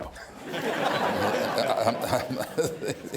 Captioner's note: laughter